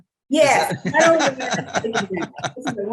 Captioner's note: laughing